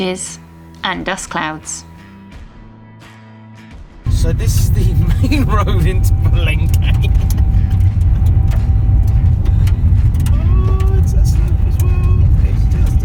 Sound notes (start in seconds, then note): 8.1 chuckles